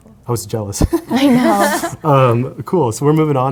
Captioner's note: panel laughs